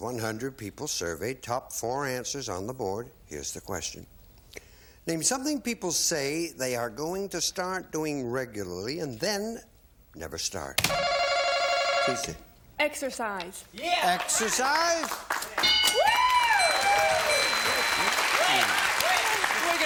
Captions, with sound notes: -Dollar values are doubled, one hundred people surveyed, top four answers on the board, here's the question. Name something people say they are going to start doing regularly and then never start. (bell) T. C.? -Exercise. -Exercise? (bell) (applause)